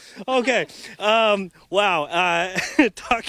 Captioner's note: laughter